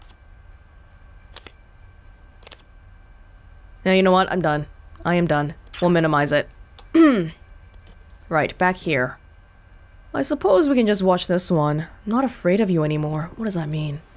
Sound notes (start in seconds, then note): 7.0 clears throat